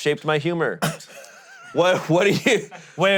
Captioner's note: laughing